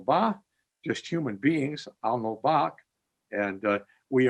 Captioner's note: speaking in Abenaki; speaking in Abenaki